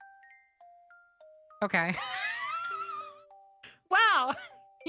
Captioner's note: wheeze